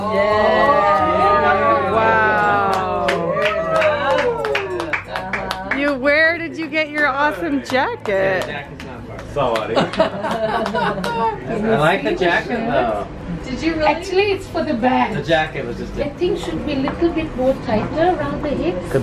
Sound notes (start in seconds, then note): 2.6 clapping; 9.8 laughs